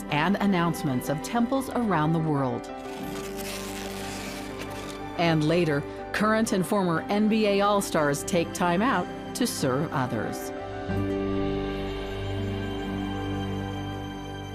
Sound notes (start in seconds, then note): 2.8 tape screeching; 10.9 gentle music continues